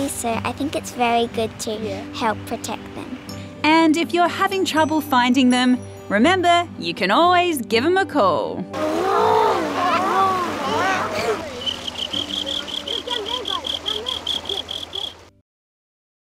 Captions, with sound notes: so I think it's very good to help protect them. And if you're having trouble finding them, remember, you can always give them a call. (ALL CROAK LIKE FROGS) (RIBBITS)